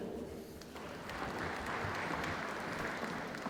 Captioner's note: applause